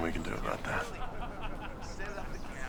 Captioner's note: men laughing